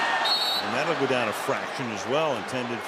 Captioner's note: whistle